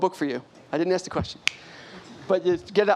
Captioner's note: snaps fingers